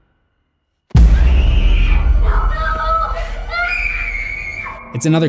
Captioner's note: scream